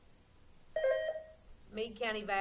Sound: buzzer sounding

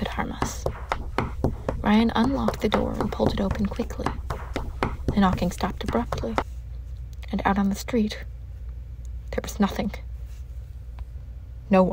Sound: knocking sound ends

